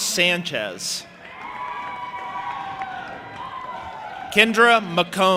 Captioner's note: audience applauding and cheering